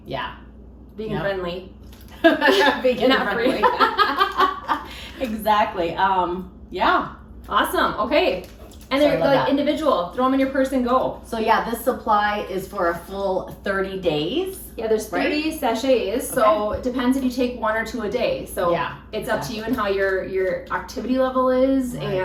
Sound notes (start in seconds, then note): 2.2 both laughing